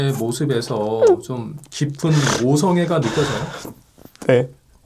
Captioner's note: sobbing